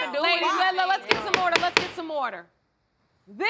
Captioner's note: gavel pounding